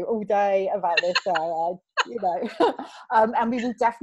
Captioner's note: both laughing